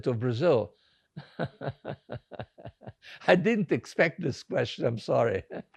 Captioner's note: laughing